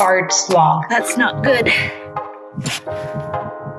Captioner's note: popping sound